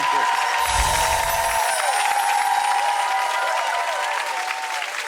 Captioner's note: audience cheers